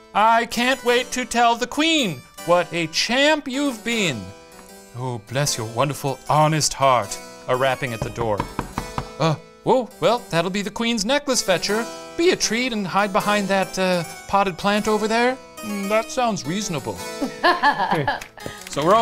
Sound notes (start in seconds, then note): 7.8 door knocking; 17.2 laughs